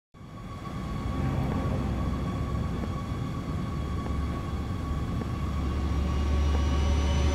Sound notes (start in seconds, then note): 1.9 women's footsteps